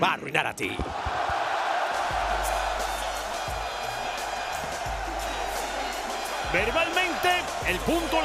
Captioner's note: applause